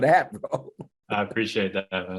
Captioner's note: chuckling